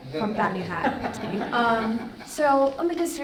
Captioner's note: audience laughing